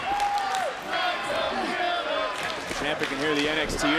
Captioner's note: crowd chants "Psycho killer"